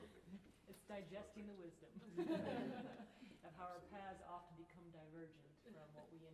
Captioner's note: laughter; laughter